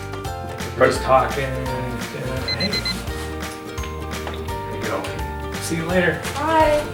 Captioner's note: alarm sounds